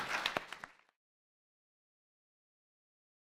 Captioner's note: applause